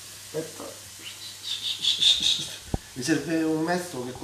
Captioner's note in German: pfeift